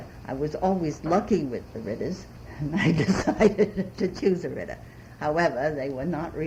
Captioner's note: laughs